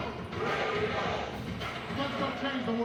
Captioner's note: crowd